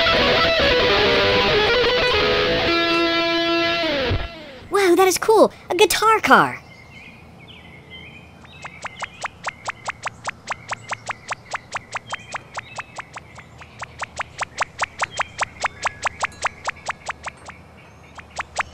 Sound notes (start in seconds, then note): 8.5 pop pop pop pop pop pop pop pop pop pop